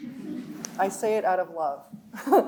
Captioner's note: audience laughs; chuckles